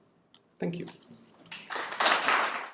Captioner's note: audience applauds